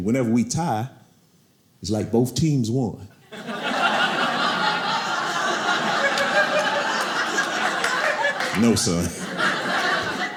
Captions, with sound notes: "whenever we tie, "it's like both teams won." (audience laughing) No son,